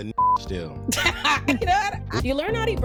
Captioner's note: laughing